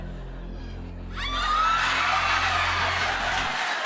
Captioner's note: audience screams, cheers; laughter and applause